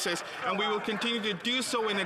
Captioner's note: applause